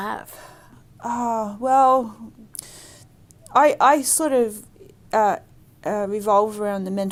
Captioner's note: sighs